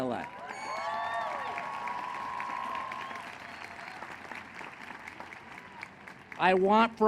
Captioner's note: applause